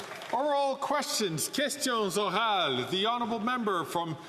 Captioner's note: some Applause